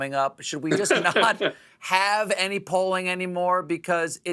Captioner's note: laughter